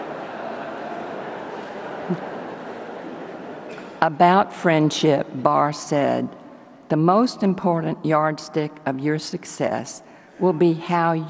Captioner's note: laughter